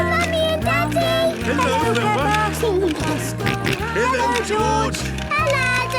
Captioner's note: George giggling and snorting